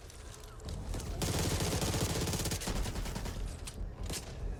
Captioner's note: gun firing